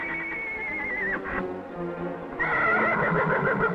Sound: horse whinnies

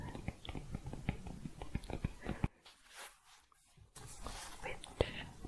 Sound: tapping

